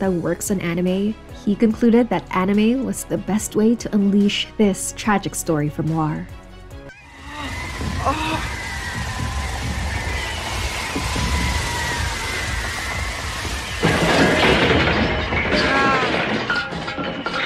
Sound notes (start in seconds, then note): 7.3 something dropping from sky